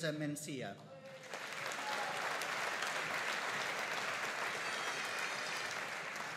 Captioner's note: audience cheering and applauding